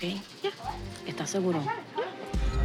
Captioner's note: speaking Spanish